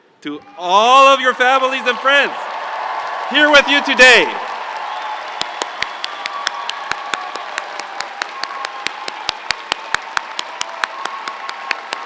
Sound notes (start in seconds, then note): 5.7 audience applauds; 5.7 audience cheering